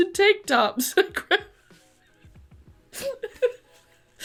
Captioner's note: laughs